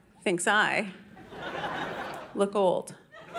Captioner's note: audience laughing